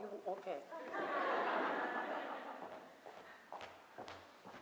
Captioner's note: laughter